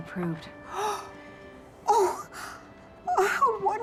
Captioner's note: gasping